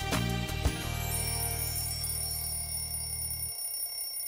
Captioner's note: Alarm ringing